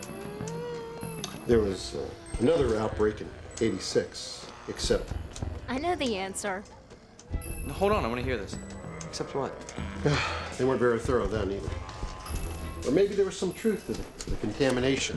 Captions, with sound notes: THERE WAS ANOTHER OUTBREAK IN '86. EXCEPT-- I KNOW THE ANSWER. HOLD ON. I WANT TO HEAR THIS. EXCEPT WHAT ? [ Sighs ] THEY WEREN'T VERY THOROUGH THEN EITHER. BUT MAYBE THERE WAS SOME TRUTH TO THE CONTAMINATION. "CONTAMINATION" ?